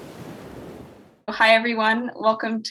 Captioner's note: waves crashing